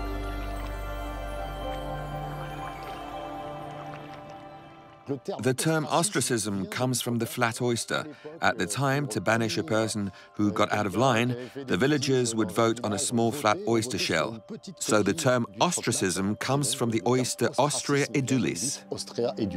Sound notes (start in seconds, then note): 0.2 water splashing; 5.1 speaking in foreign language